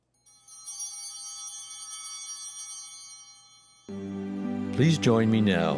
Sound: bell ringing

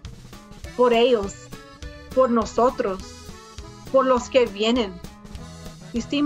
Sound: speaks in foreign language

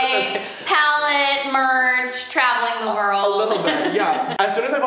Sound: laughs

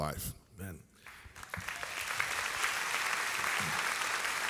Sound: audience applauds

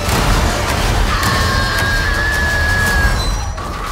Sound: screaming

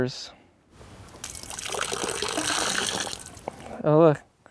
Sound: water pouring

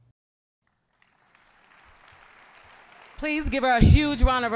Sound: applause

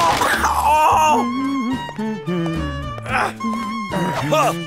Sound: hums

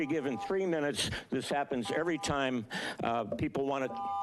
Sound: beeping

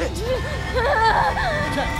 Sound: crying

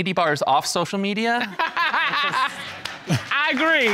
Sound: judge dana laughing

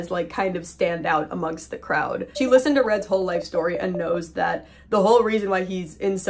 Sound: beeping

